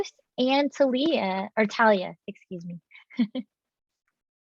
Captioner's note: chuckles